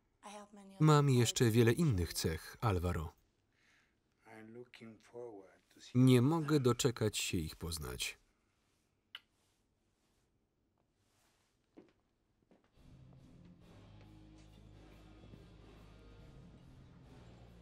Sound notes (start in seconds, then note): 9.1 kissing; 12.8 rock music